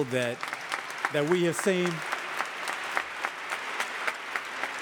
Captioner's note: audience applauding